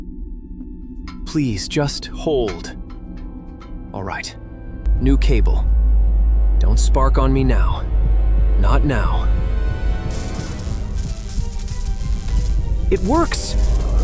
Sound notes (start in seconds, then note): 10.0 faint electric cable sparking